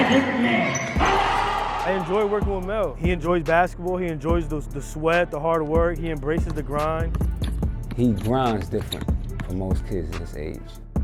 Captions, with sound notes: (crowd cheering) - I enjoy working with Mel. He enjoys basketball. He enjoys those, the sweat, the hard work. He embraces the grind. - He runs different than most kids his age.